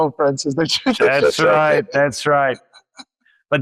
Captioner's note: laughs